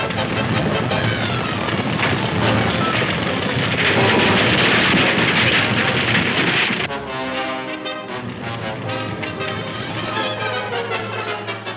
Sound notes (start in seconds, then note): 3.2 wagon crashing; 6.6 suspenseful orchestral music